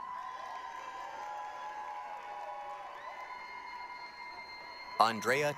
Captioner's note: applause, cheering